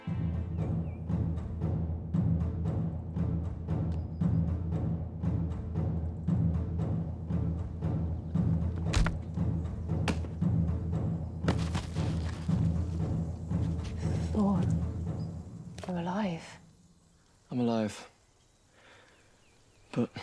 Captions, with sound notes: (tense drumming music) (stick whacks) (body thuds) - Thor, you're alive. - I'm alive, but Father is dead.